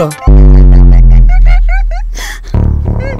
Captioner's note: Devika giggling